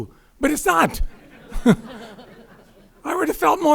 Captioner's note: crowd laughing